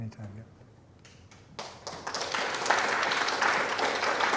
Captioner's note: applause